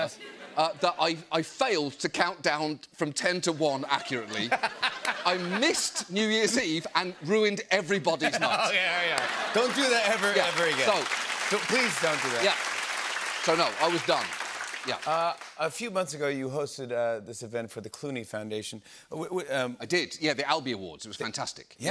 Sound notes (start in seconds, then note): 8.2 laughter; 9.0 applause